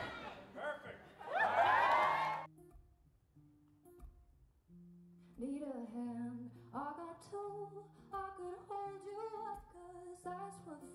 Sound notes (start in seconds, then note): 1.2 everyone cheers